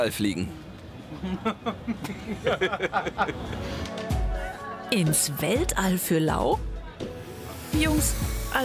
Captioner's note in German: Haha